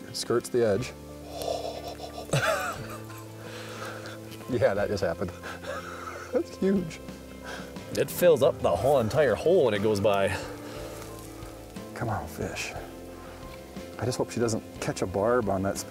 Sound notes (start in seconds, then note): 1.4 chuckling